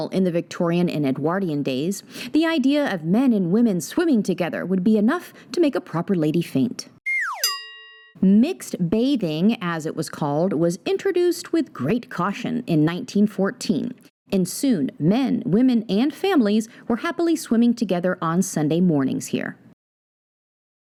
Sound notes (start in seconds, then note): 7.0 dramatized falling sound; 7.3 bell chimes